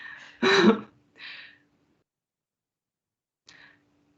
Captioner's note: laughter